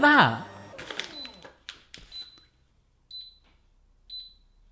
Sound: machine beeps

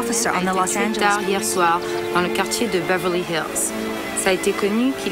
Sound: French spoken audio

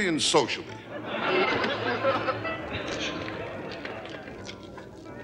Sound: audience laughter

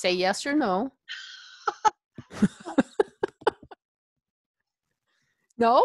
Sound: laughter

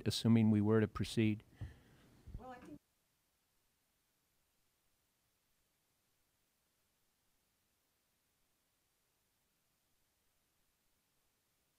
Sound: audio dropped

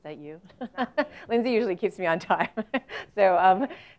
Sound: laugh

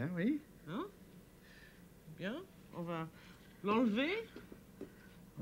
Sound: speaking French

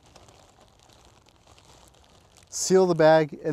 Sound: bag rustling

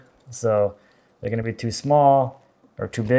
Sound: none

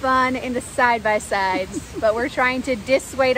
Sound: laughs

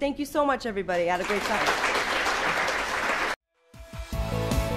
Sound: audience clapping; lively music

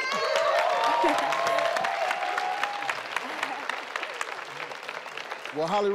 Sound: team cheering; audience clapping

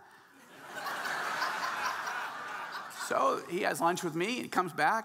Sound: audience laughing

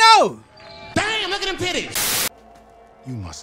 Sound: crowd cheering; comedic Voice

